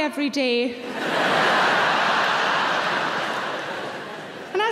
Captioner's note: audience laughing